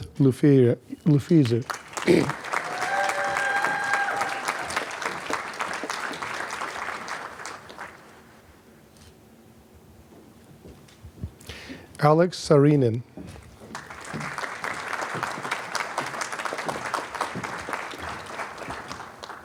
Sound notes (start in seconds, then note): 1.6 applause, cheering; 13.7 applause